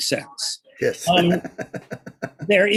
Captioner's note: chuckles